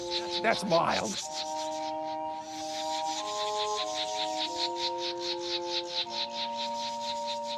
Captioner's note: imitating birds